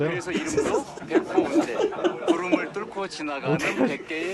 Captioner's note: haha